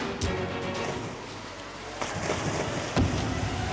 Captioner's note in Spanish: Disparo